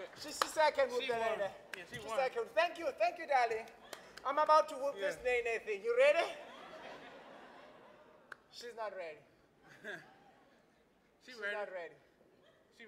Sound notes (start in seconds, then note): 6.4 laughing